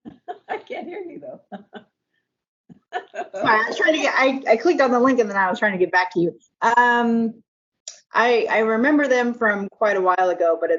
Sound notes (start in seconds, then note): 2.9 laughs